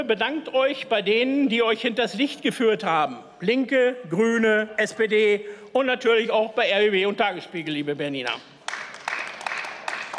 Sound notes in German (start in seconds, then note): 8.6 Beifall